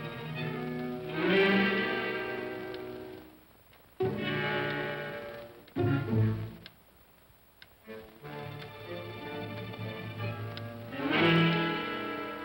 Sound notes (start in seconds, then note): 0.0 ominous whimsical music; 1.0 clock ticking; 1.0 ominous whimsical music